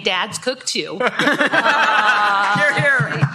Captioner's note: laughter